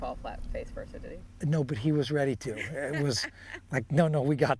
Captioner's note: woman laughing